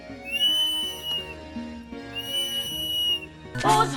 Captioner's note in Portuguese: Apito